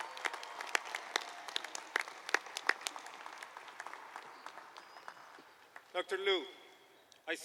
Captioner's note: applause